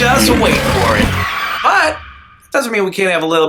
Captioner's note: tires screeching